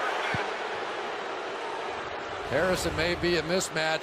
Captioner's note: booing